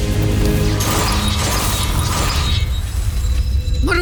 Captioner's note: tense music playing; weapons zapping & clanging